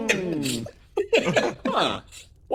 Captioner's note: laugh